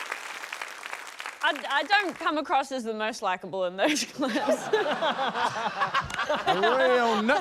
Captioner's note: laughter; laughs